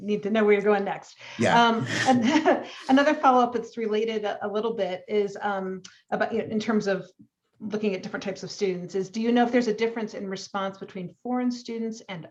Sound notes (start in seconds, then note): 1.7 laughs